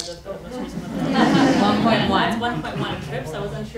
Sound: audience laughing

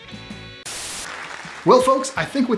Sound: static hissing

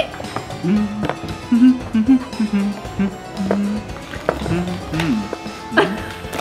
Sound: playful halloween music; dad humming; giggles

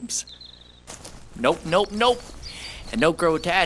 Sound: walking

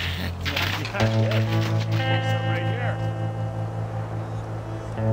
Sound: speaking faintly

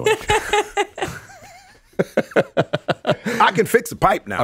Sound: laughs

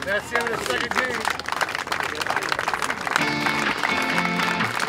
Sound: applause

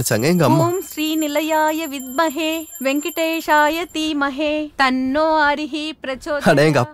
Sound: chanting

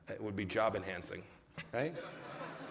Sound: laughter

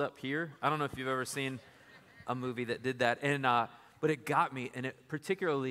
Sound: laughter

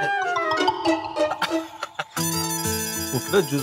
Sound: laughing

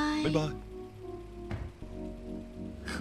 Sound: car door closing

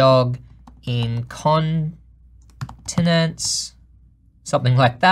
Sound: soft typing

